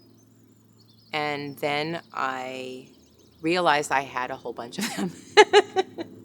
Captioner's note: laughs